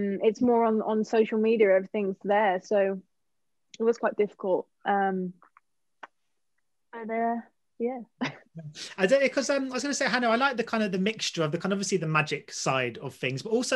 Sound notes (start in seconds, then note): 8.2 chuckles